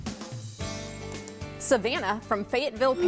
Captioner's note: mouse clicks